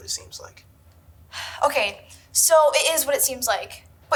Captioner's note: sighs